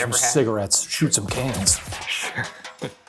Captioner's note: cans rattling; laughing